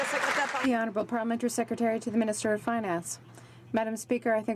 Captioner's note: some Applause